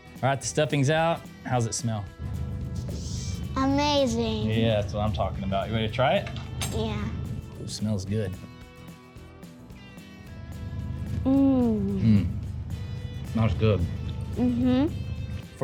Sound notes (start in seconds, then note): 2.4 sniffs; 11.3 both moan